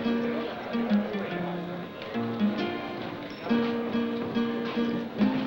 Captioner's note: guitar playing; chattering